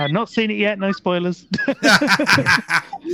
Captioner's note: laughing